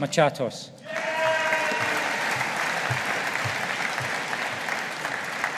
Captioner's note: audience applauding